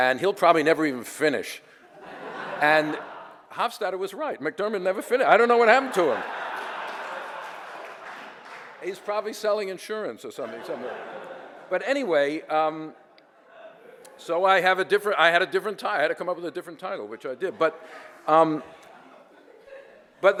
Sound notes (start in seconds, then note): 1.9 audience laughter; 5.7 laughter and applause